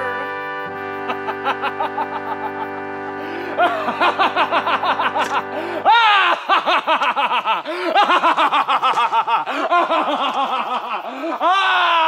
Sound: laughter

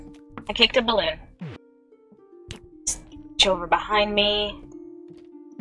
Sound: none

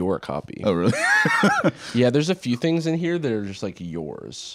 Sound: laughs

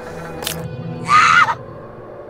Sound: scream

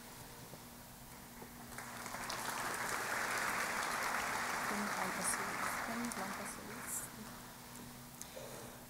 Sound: applause

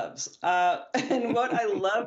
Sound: laughter

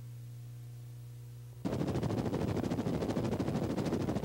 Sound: helicopter rotor beating

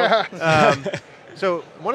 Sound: laugh

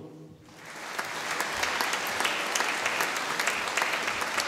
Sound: audience applauding

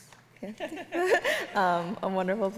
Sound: both laughing

